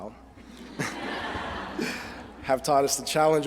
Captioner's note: laughter